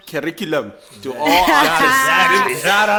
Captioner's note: everybody laughs